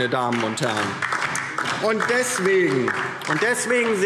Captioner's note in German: Beifall DIE LINKE